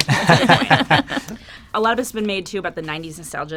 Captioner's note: laughing